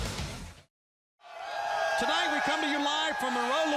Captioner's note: crowd cheering